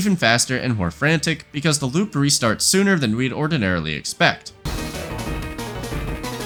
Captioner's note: bang